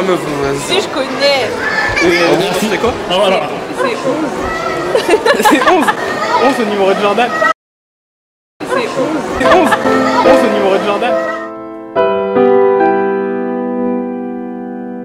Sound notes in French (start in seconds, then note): 4.9 la fille éclate de rire